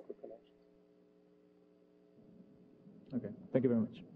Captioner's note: pause